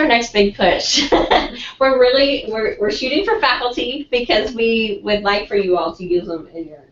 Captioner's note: laugh